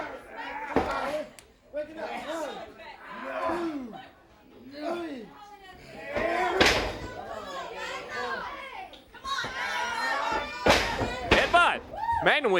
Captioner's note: crowd chatter